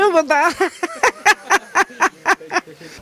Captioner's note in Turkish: Gülme sesi